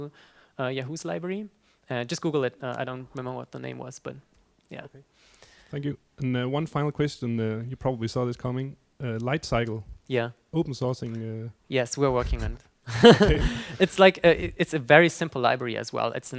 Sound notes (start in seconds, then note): 10.9 voiceover; 12.9 laughter